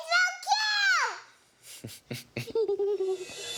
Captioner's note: laughs